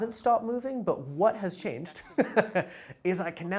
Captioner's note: laughing